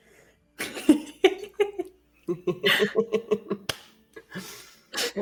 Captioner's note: giggles